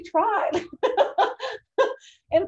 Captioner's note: laughs